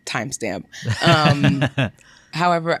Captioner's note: laughs